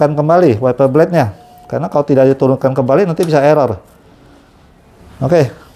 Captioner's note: bell ringing